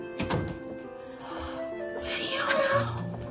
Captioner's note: gasps